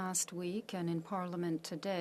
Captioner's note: speaking French